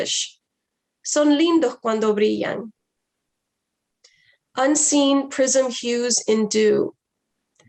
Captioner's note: foreign language